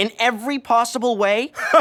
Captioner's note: chuckles